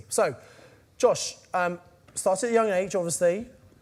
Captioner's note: none